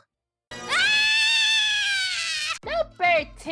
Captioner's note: Darwin screams